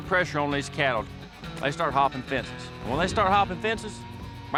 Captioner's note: none